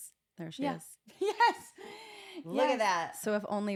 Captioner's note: laugh